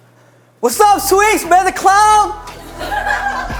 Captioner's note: yelling